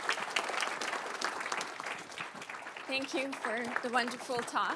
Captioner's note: audience clapping